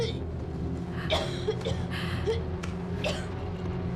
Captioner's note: coughing